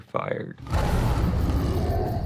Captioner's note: growling